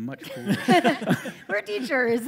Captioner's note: laughter